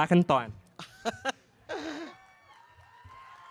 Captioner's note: laughing